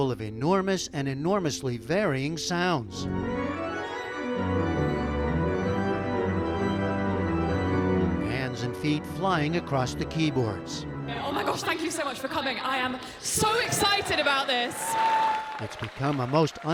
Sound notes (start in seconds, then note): 13.3 cheering